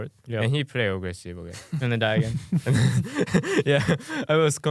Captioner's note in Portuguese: risos